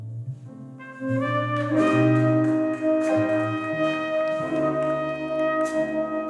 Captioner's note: mellow music; audience applauding